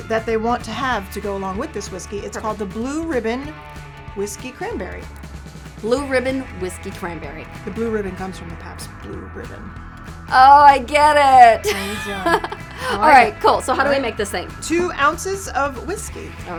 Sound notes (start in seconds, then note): 11.4 laughing